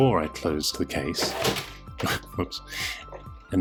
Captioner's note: case slamming